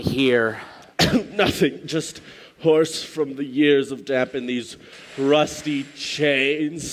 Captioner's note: coughing